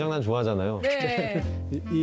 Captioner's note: hehehehehe